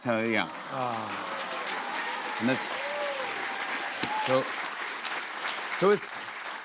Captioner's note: cheers and applause